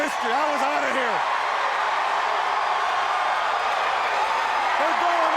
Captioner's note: crowd cheering